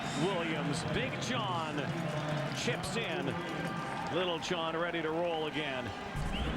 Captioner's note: cheers, applause